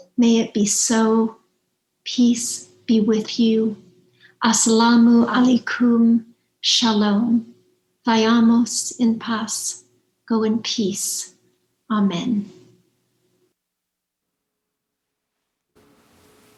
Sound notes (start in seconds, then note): 8.1 speaking in foreign language